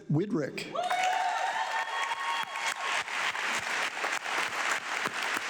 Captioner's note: audience clapping